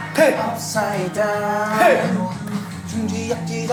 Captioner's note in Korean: 짝짝쿵